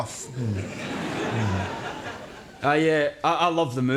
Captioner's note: audience laughs